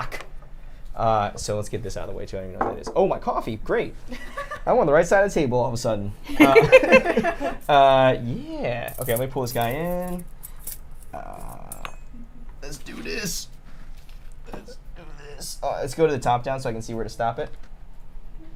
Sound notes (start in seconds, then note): 6.3 laughter